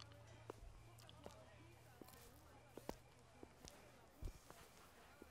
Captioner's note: footsteps